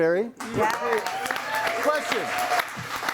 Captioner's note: audience applauds and cheers